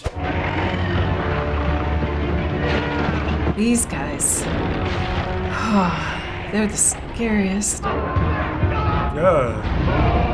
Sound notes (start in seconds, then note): 0.2 ominous music; 3.6 sighing